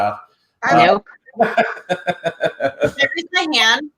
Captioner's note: laughs